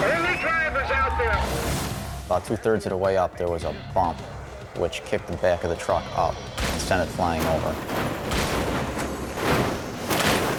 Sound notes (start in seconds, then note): 6.4 truck crashing; 9.9 ominous music; 9.9 truck crashing